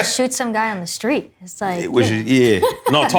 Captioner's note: laughter